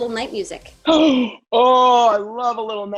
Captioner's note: Josh gasps